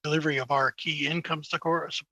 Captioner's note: speaking French